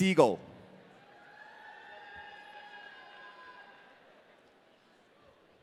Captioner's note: audience cheering